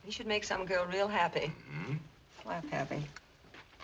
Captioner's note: whispering